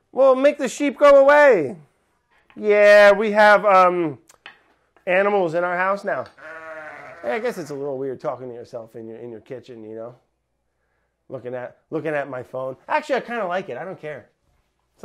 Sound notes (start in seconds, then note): 6.3 sheep baaing